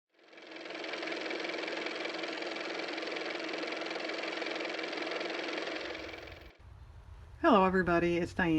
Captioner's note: car motor